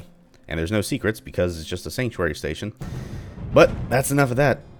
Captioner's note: thunder